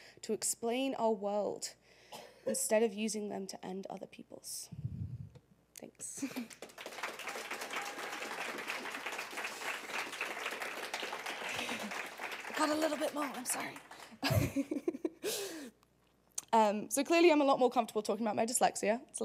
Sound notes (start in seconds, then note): 6.2 applause; 13.9 laugh